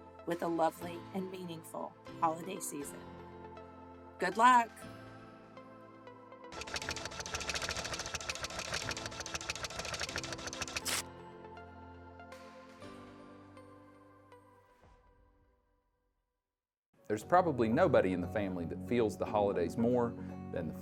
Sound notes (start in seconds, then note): 6.5 printer buzzing